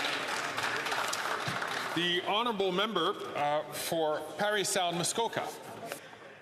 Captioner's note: some Applause